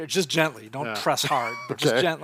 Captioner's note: chuckling